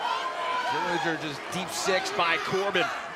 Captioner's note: crowd chatter